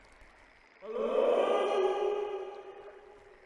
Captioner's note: echoes